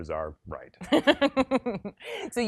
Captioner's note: laughs